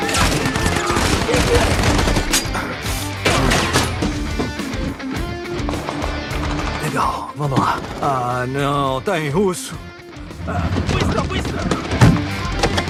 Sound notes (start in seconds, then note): 6.8 Booth in English